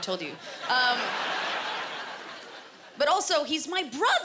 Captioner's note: laughter